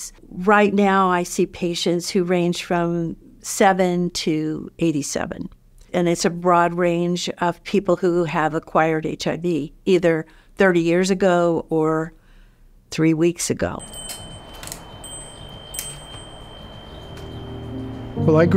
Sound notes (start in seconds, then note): 13.7 bell rings; 17.1 gentle music